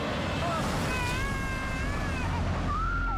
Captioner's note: baby crying; screams